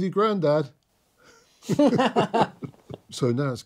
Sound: both laughing

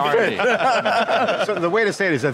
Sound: laughing

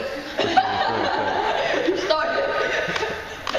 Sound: laughing

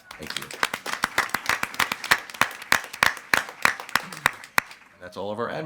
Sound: everyone applauding

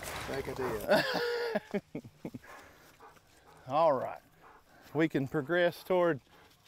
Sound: chuckles

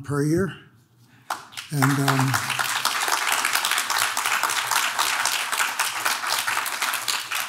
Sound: audience claps

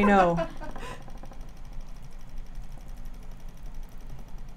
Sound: machine rattles

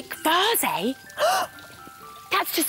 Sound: gasp!

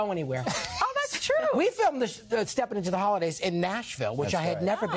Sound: laughter

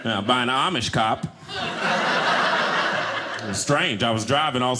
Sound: audience laughing

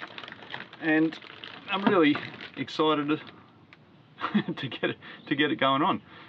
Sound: laughing

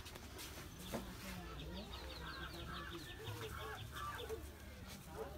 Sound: crows Cawing

